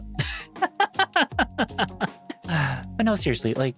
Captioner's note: laughing